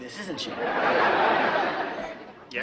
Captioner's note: audience laughing